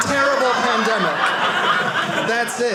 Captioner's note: audience laughing